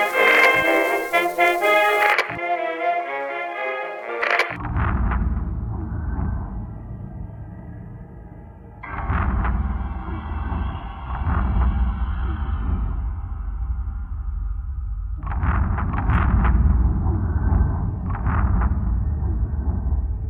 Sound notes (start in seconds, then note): 0.0 static hissing; 0.0 upbeat music continues; 4.2 item rasping; 4.9 pensive music